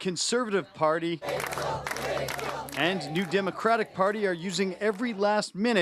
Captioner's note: applause